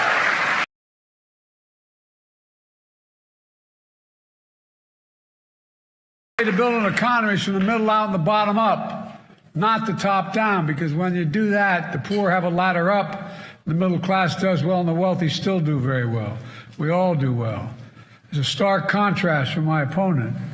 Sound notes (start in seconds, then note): 6.4 cheers and applause